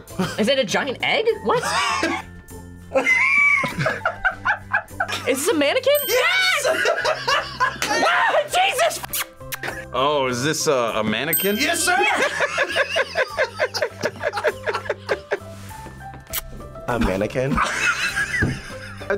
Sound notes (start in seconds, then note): 2.9 both laugh; 6.6 laughs; 7.9 screams; 11.9 group laughs; 17.6 laughs